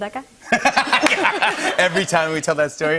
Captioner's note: laughter